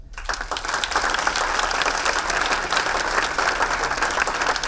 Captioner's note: audience clapping